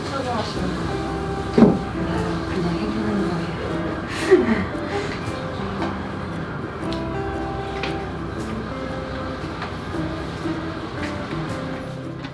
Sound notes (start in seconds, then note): 4.0 shy laugh